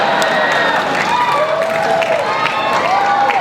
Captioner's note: crowd applauds